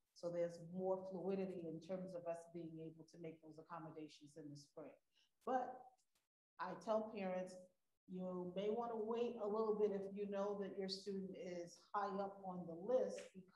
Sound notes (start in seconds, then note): none